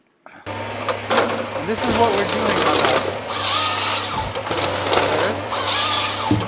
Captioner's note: saw buzzing